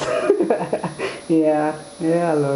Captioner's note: chuckles